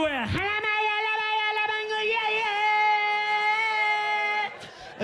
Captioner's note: chanting in gibberish